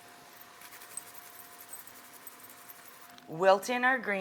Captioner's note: grater scraping